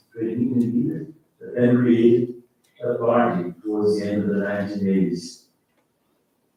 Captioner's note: faintly speaking